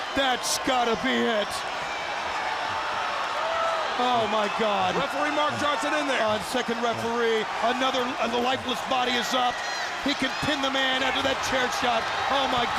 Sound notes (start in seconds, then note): 3.2 crowd cheering; 5.0 crowd chatter